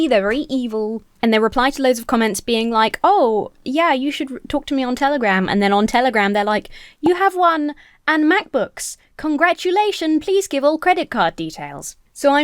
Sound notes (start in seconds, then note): none